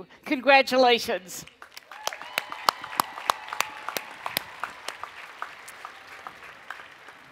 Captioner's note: cheering and Applause